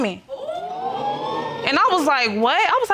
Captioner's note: crowd wooing